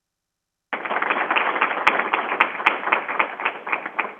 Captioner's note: crowd applauding